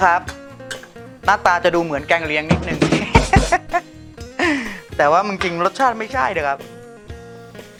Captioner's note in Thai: หัวเราะ